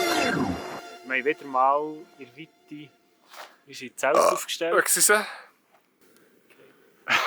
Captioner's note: burps